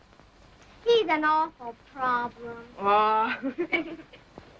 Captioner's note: laughs